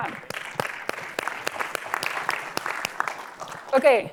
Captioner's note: applause